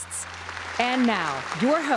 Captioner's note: applause